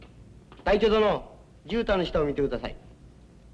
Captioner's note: speaking japanese